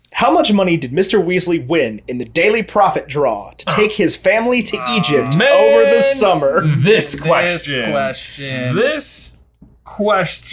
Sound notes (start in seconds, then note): 6.6 groaning